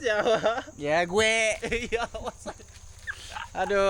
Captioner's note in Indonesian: tertawa